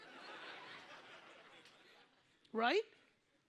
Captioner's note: audience laughs